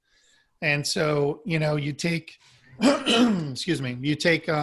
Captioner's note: clears throat